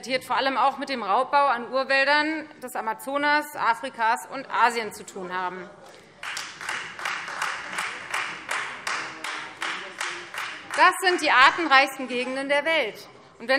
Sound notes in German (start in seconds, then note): 6.2 Beifall Freie Demokraten